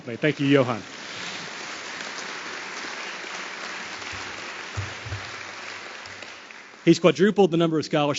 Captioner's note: applause